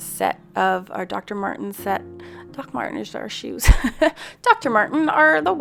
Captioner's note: chuckles